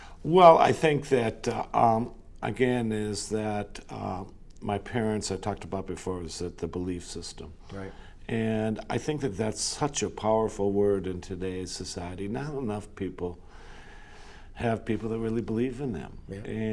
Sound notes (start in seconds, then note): none